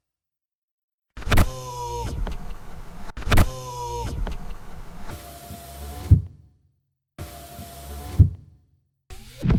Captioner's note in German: Türschließgeräusch; Türöffnungsgeräusch; Fensterbetätigungsgeräusch